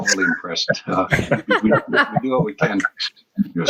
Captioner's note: all laugh